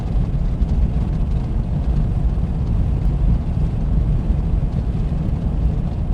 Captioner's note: car rumbling continues